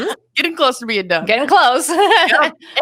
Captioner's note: laughs